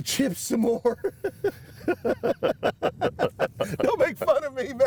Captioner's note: both laugh